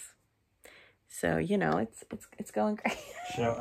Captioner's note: laughs